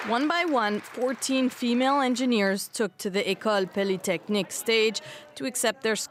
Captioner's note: applause